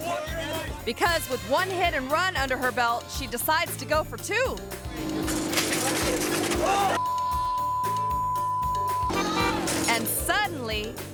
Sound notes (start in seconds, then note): 5.0 engine roaring; 5.0 bicycle clattering; 7.0 beep